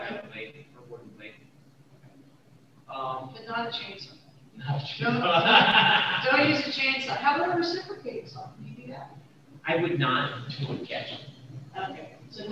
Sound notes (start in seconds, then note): 5.0 laughs